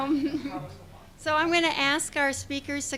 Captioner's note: speaking off mic